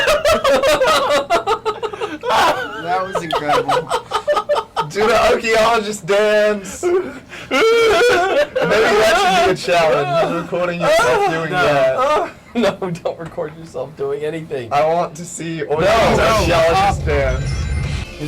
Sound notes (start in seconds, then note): 0.0 they both laugh; 7.2 makes panicked noises while making those motions